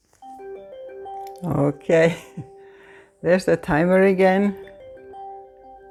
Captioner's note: chime